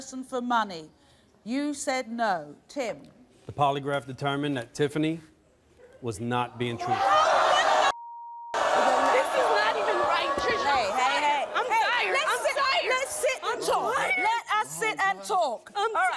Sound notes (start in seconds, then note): 7.9 beep